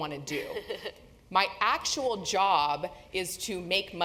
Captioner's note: laugh